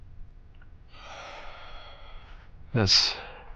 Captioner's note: sighing